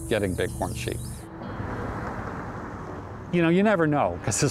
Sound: car engine roaring

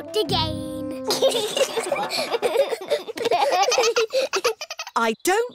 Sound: all giggling

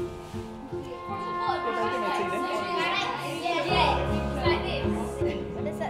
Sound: thoughtful music; children chattering

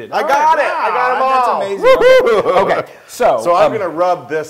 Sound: laugh

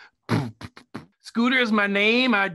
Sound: Scooter beatboxes

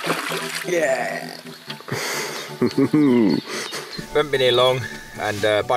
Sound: laughs lightly

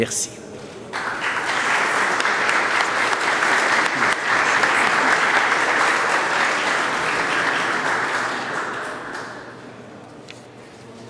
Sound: applause

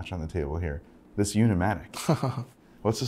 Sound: chuckling

